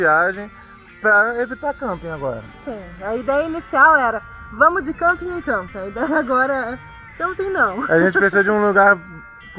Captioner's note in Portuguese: risada